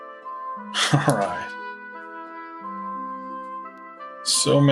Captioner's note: laughing